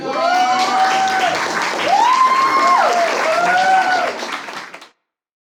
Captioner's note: audience applause